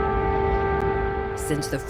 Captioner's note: sirens blaring